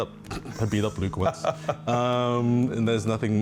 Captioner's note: laughs